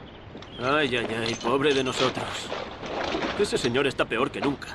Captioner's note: soldier speaks Spanish